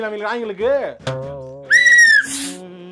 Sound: blowing the whistle

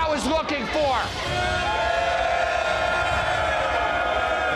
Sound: crowd boos

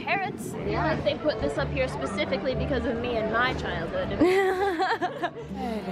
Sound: laughter

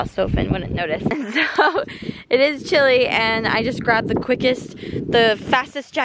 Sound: laughs

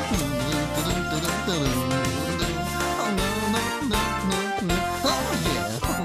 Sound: humming

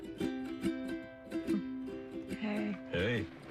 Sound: chuckles

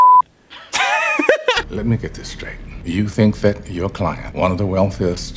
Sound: wheezes

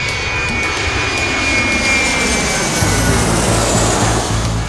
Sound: upbeat energetic music; airplane whooshing

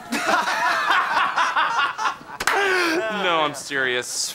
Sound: all laughing

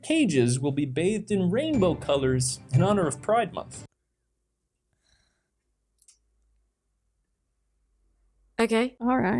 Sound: uncomfortable silence

